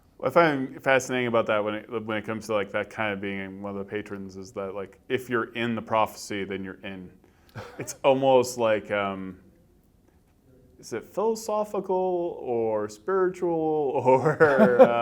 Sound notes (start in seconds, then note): 7.6 laughs